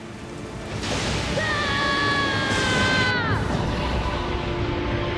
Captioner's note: screaming